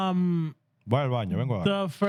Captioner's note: speaking Spanish